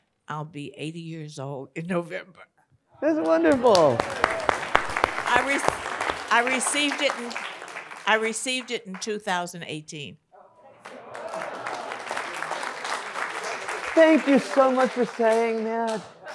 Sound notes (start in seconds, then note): 3.1 audience applauds; 10.8 audience applauds